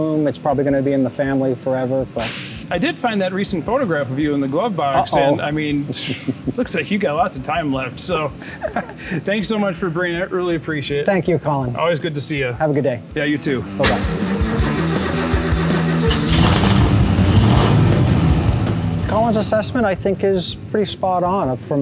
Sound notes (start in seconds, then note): 13.3 engine rumbling; 13.8 engine turning over